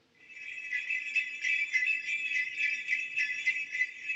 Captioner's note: bells Jingling